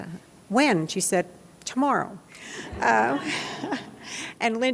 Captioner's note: laughs